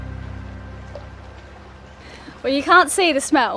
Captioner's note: upbeat music; rippling water